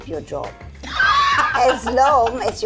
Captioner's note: laughing